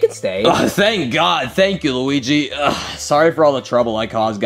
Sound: grunts

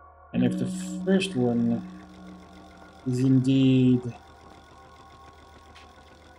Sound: tone sounds; mechanical clicking

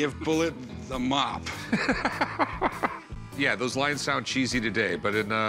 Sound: laughs

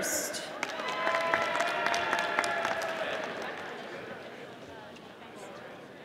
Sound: audience applauding

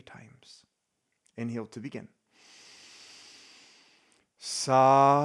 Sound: inhales deeply

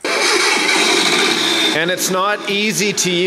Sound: car starts

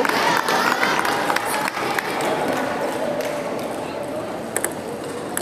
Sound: applause

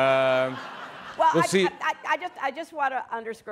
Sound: laughter

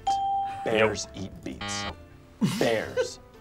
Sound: chuckles; buzzer

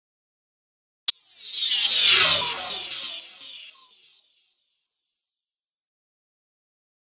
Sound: sound of swish

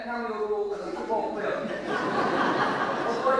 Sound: audience laughter

